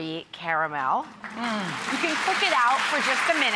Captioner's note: audience applauding